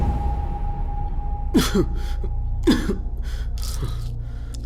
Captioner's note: coughs